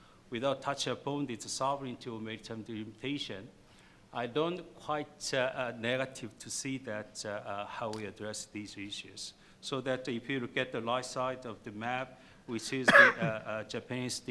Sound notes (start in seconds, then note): 12.8 cough